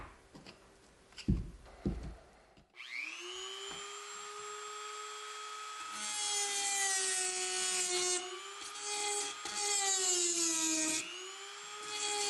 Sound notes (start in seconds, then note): 2.8 Dremel buzzing